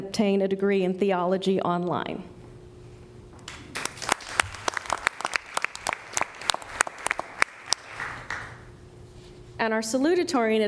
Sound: applause

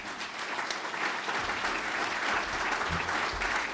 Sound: clapping

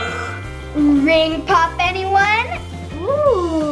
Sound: twinkling; gasps

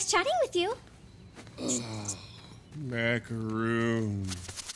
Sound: groaning

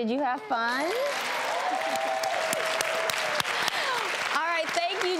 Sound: applause

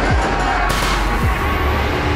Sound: gunfire

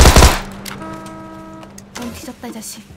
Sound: bbbbbaanggg

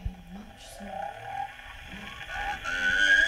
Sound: voice fades

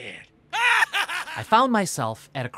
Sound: laughs maniacally

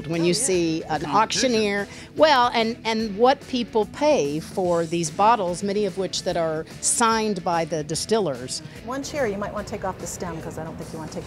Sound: laughter

